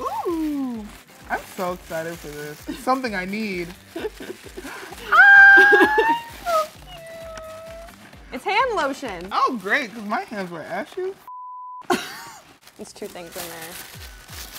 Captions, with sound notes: Oooo, I'm so excited for this. It's something I need. Ahhh, he's so cute. - It's hand lotion. - Oh great, 'cause my hands were ashy as (beep). (laughs) - There's two things in there.